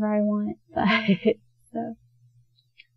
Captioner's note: soft chuckle